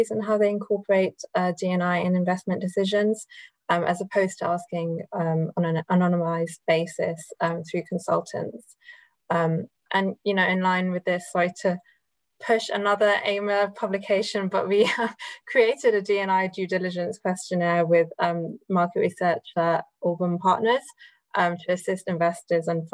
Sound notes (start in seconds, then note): 14.9 laughs